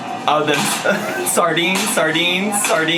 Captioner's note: laughs